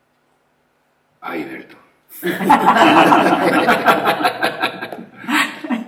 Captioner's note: laughs